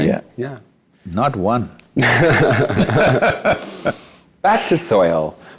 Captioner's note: both Laugh